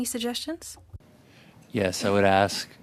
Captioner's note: speaking French